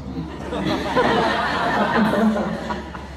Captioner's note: laughs